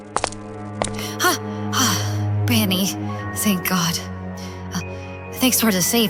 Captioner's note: sigh